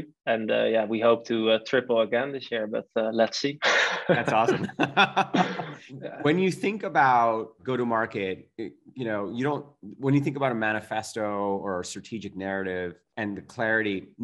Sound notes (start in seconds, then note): 3.6 laughs